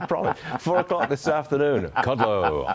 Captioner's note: laughter